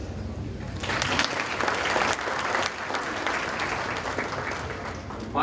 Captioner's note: audience applauding